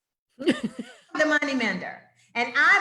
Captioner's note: laughs